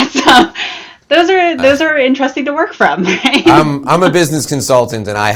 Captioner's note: laughs